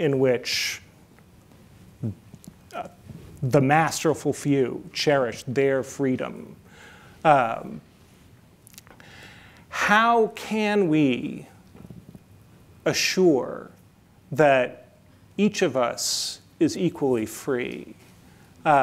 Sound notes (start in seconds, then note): none